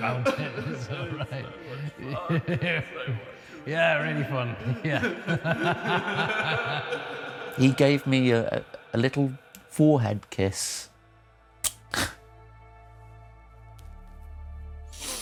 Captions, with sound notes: he gave me a little forehead kiss [kissing noise]